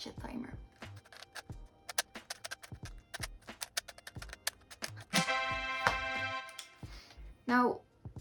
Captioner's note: cubing noises